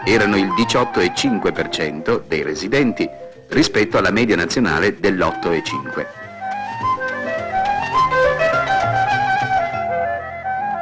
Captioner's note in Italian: Applauso